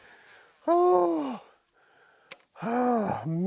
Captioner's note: sighs